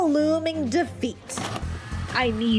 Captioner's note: sfx: VHS insert